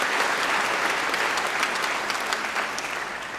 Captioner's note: applause